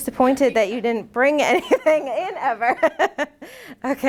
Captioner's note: laughing